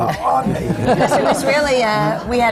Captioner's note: laughter